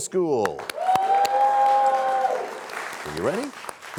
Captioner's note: cheers and applause